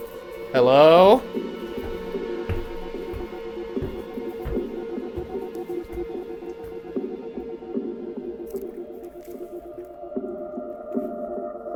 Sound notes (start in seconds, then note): 0.0 footsteps pattering; 3.6 eerie music